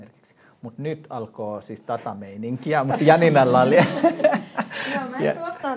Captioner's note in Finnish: naurua